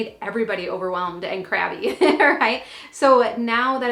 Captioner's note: laughs